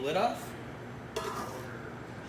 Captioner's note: metal lid clatters